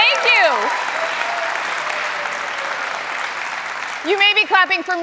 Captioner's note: applause